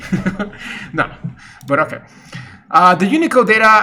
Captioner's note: laughs